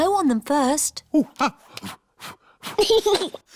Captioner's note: blows; giggles and blows